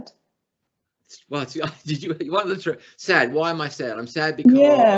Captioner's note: laughs